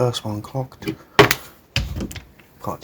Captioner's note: thud